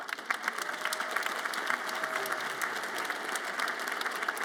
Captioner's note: audience applauds